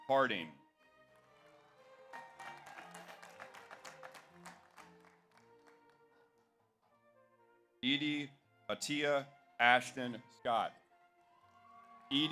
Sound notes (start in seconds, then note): 1.1 audience applauds; 1.4 audience cheers